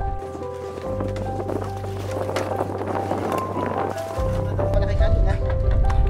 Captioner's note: gusting sound